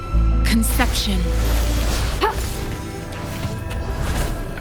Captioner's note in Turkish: Çatışma sesleri